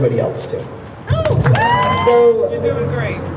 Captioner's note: crowd cheering